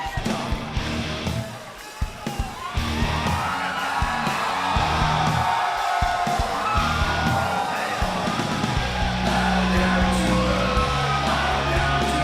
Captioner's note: crowd cheering